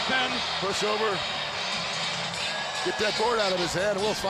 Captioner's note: crowd cheering